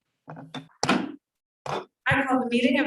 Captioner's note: gavel bangs